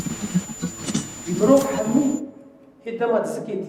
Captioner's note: static hissing